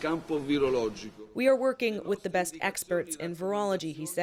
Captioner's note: speaking Foreign Language